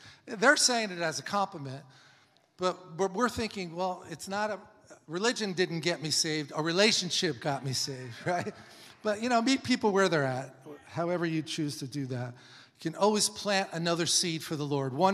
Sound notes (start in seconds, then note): 8.1 laughs